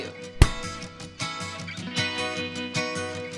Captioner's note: hand slap